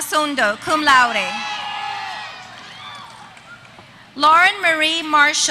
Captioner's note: applause